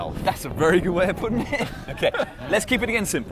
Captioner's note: laughs